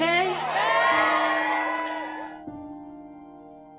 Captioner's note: cheers; soft music